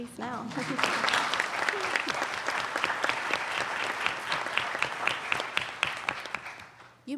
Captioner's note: applauding